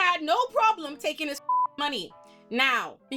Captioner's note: beep